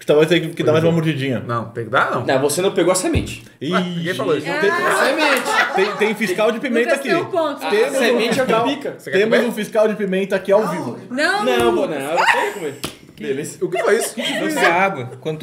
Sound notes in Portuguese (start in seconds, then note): 7.1 risos